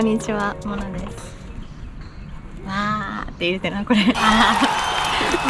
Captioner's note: cheering